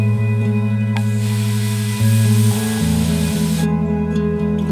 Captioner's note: haloumi sizzling